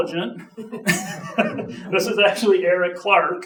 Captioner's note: audience chuckling